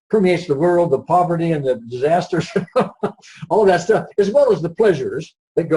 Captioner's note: laughs